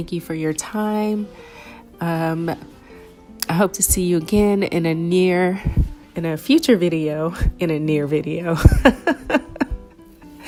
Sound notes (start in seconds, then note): 8.6 laughter